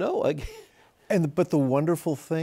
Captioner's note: chuckles